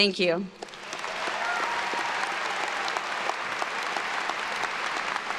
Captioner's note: everyone cheering and applauding